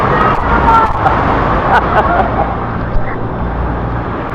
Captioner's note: laugh